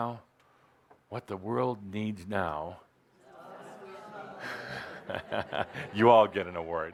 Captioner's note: laughter